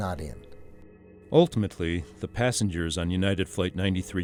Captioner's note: voiceover